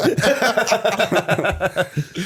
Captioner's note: laughter